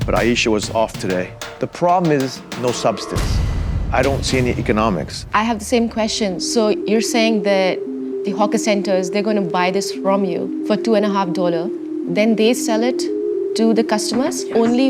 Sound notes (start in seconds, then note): none